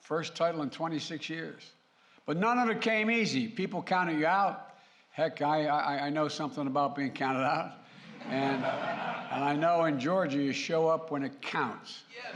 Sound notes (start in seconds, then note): 8.0 laughter